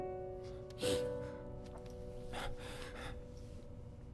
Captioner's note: Sniffs